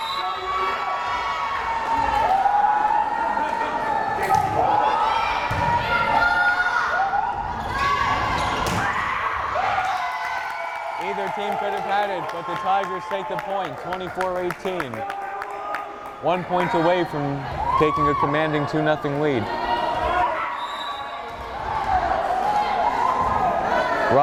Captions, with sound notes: (whistle blares) (crowd cheering) Either team could have had it, but the Tigers take the point, 24-18. One point away from taking a commanding 2-0 lead. (whistle blares)